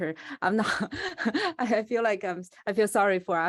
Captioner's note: laughs